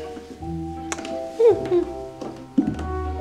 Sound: kissing sound

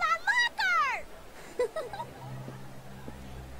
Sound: giggling

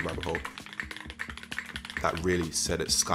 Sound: keys clicking

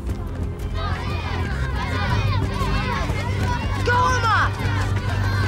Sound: crowd cheering

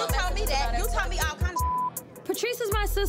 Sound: beep

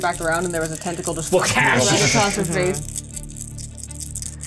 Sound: mimic whipping noise

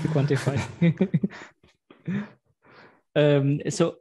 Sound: laughter

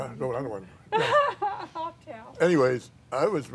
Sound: laughing

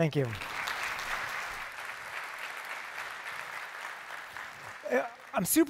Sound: applause

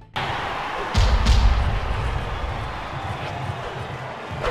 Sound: blows thudding

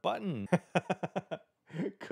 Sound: laughs

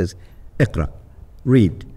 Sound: speaking Arabic

